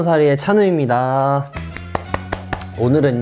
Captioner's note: applause